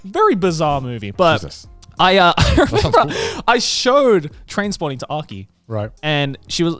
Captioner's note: laughs